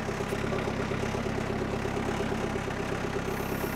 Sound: engine rumbling

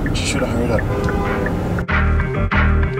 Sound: car honks; intense music

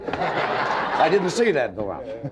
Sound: audience laughing

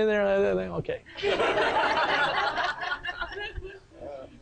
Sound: sound of laughter from audience

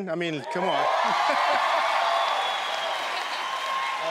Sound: crowd cheers

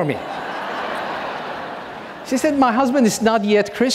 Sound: audience laughing

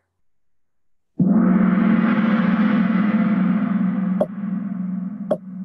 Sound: gong

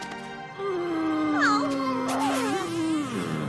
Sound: both moaning

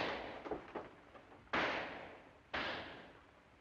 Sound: gunshot; gunshot

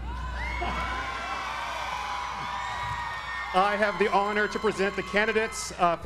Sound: applause

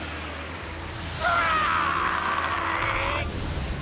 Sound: roars

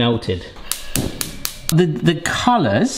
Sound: stove clicking

